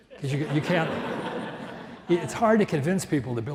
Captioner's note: audience laughs